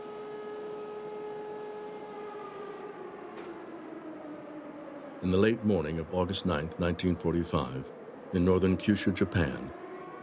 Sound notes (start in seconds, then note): 2.8 siren fading